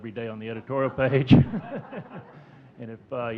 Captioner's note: audience chuckling